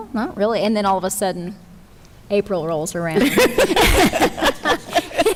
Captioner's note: chuckles